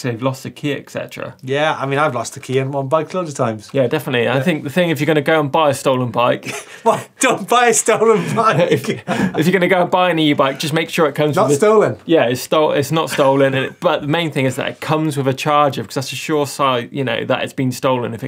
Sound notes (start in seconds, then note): 6.4 laughing